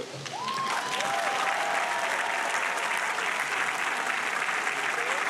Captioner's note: audience applauding and cheering